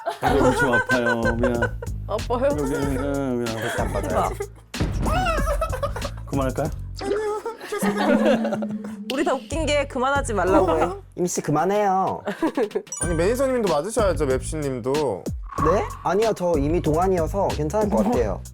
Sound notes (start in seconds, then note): 5.1 screaming SFX